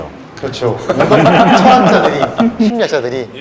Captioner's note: laughter